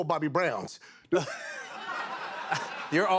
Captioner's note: laughter